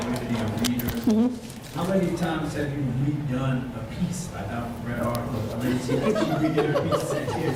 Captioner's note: audience laughs